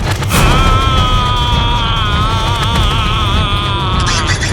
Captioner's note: cry